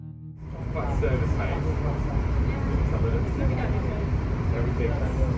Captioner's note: passengers murmuring